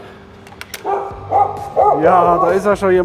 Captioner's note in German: Hundegebell